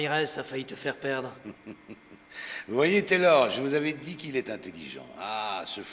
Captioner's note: laughter